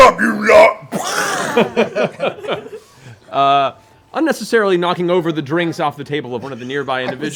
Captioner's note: laughs